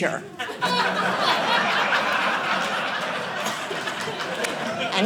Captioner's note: audience laughing